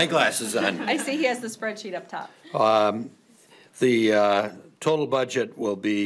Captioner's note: laughing